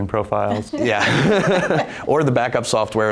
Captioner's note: group laughs